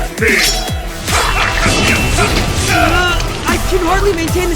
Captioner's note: grunts